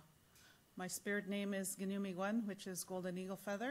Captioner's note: in English